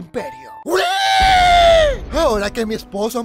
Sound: ship explodes!

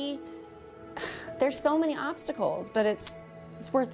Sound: sighs

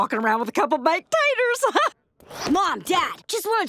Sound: laughing

